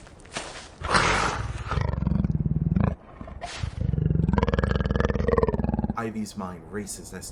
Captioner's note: Intense guttural sound of tiger, Ivy stops